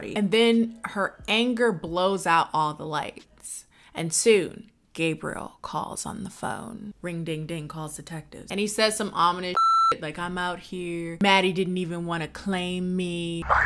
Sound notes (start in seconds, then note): 9.5 beep